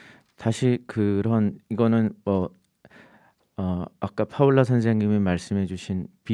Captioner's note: speaking in Korean